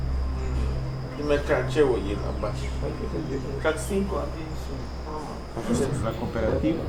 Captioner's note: speaks in maya chol again